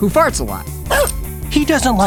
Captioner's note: barking